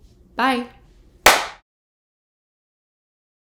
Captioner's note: claps